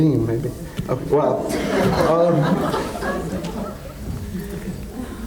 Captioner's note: audience laughs